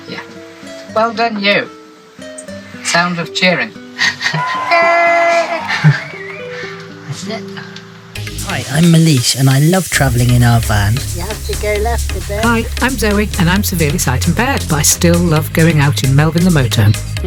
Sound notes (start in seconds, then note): 7.0 sound of cheering; 7.0 laughing